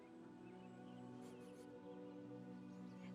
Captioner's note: birds chirping